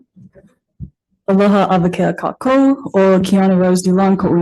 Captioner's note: speaks Hawaiian